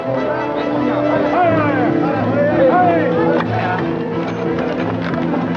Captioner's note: speaks foreign language